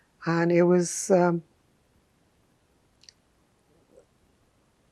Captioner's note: pauses 6 seconds